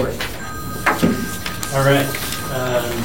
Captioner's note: phone ringing